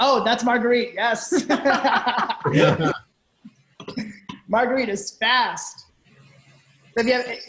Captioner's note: both laughing